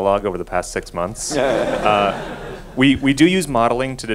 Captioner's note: laughing